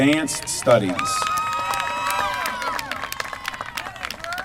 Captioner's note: applause